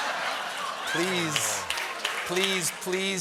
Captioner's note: laughter